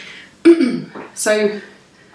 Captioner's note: clears throat